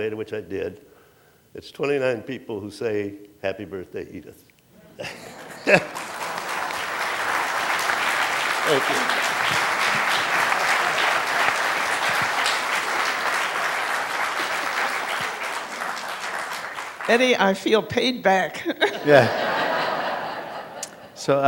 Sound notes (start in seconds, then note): 5.0 applause; 18.6 laughter